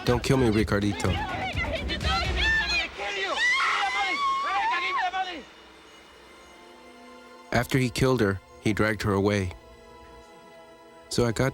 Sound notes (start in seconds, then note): 4.5 screaming